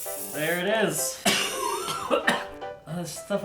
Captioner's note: coughing